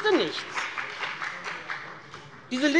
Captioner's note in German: Beifall bei dem BÜNDNIS 90/DIE GRÜNEN und der CDU